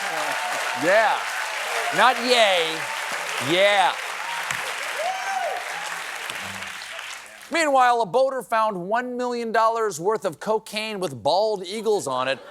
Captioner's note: laughter and applause